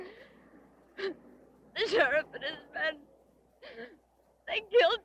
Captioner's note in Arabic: نشيج